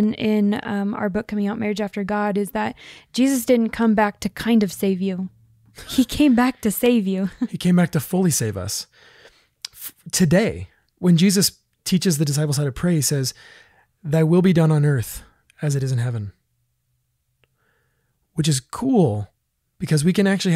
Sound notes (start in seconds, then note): 5.8 laughs